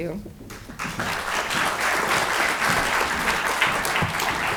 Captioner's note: audience applauding